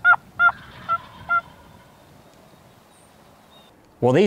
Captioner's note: turkey gobbles